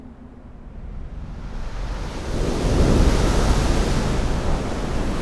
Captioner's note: waves crashing